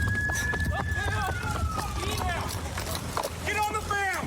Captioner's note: shouting